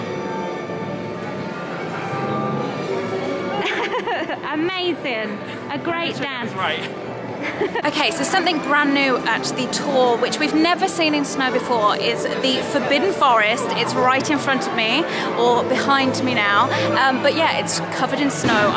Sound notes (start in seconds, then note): 0.0 classical music; 3.6 laughing